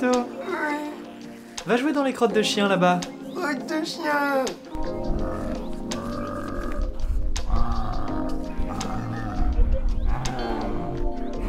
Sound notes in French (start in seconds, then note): 5.1 Bruit de zombie au loins